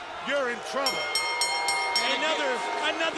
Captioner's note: bell chimes